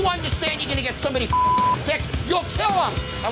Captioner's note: intense music continues; beep